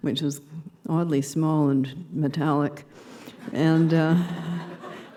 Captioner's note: laughter